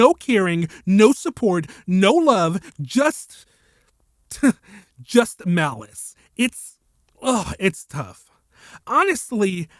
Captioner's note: sigh